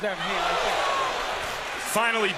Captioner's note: crowd cheers